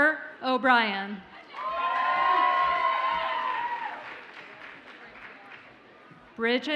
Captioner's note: audience cheers and applauds